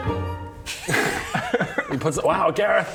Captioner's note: prankster giggles